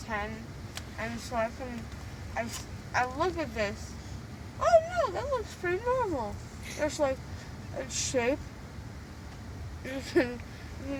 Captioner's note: laughs